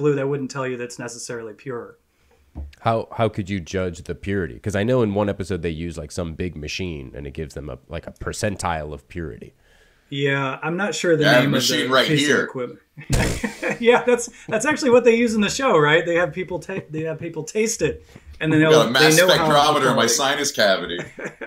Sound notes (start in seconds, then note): 13.0 all laughing; 20.8 laughing